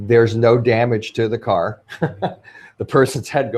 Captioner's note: laughs